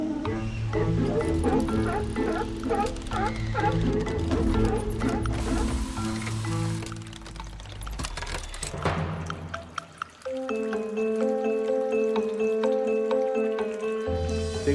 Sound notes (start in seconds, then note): 0.1 seal growl; 4.0 mechanic chirps